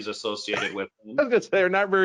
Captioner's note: laughs